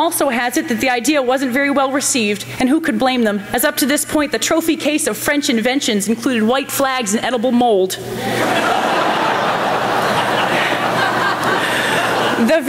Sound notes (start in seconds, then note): 8.2 laughter